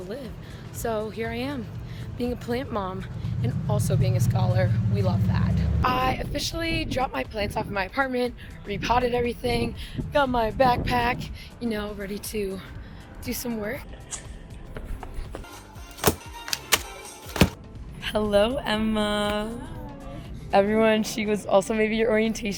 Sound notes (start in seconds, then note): 14.0 door clicks; 15.8 footsteps; 17.2 paper, pencils, book hit table